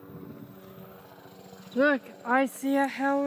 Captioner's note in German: Helikopter wirbelt